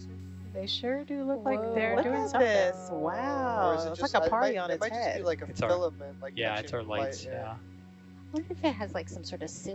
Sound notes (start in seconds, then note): 1.8 group wowing